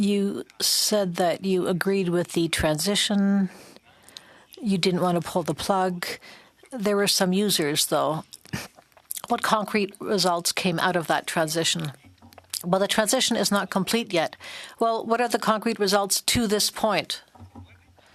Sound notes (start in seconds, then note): 1.3 speaking French